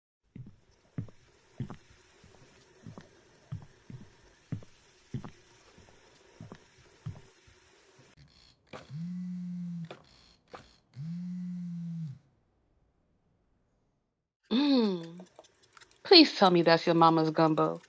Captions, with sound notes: (footsteps) (phone vibrating) Mm, please tell me that's your mama's gumbo.